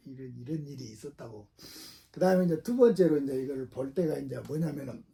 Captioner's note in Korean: 콧방귀